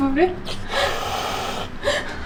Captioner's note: COCO: Hiss!